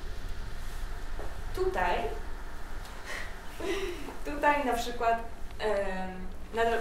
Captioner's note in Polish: śmiech